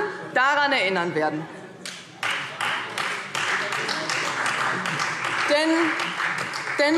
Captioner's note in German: Beifall Freie Demokraten und vereinzelt SPD